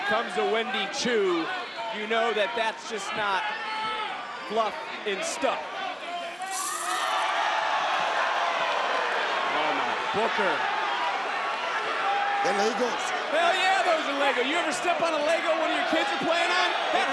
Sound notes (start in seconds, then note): 6.2 crowd oohing